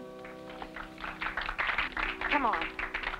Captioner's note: audience clapping